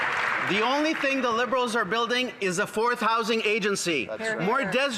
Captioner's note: some Applause